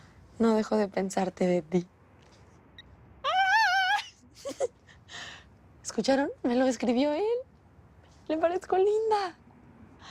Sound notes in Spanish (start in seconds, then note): 3.2 Grito